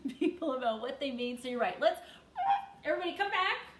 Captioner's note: imitates tires screeching